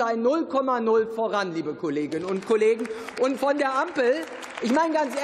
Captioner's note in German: Beifall